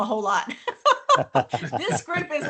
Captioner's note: laughter